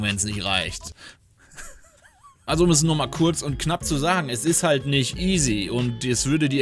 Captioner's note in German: gelächter